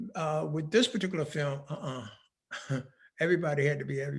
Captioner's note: laughing